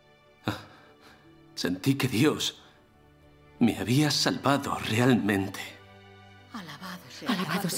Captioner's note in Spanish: solloza